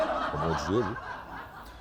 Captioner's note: laughter